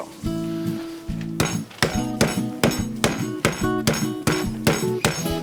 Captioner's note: rolling pin thudding